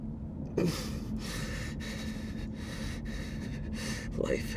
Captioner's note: Mark panting